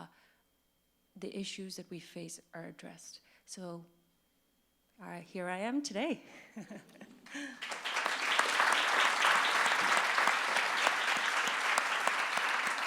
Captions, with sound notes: the issues that we face are addressed, so. Here I am today. (laughs) (audience claps)